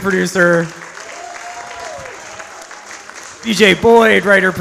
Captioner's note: audience applauds